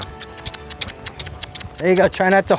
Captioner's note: all clicking their tongues and making kissing sounds